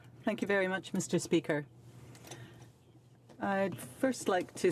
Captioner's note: speaking French